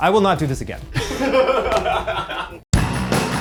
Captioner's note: laughs; upbeat rock music